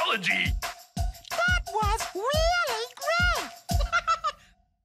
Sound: giggles

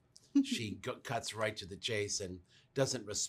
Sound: woman interviewer laughs

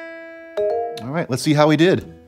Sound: app chiming

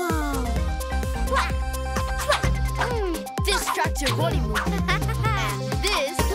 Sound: exclaiming

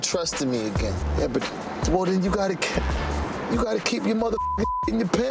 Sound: beep

